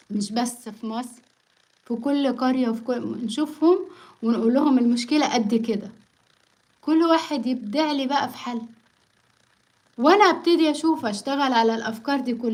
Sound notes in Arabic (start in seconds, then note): none